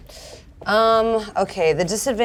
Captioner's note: inhales sharply